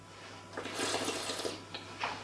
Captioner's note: slurping